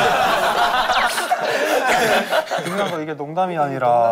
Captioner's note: hahahaha